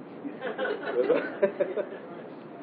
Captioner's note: Gülüşmeler